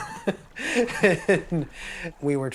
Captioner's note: laughs